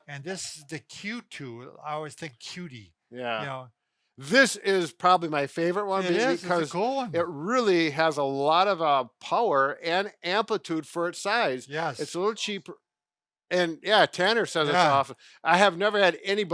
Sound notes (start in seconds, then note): 14.6 distant talking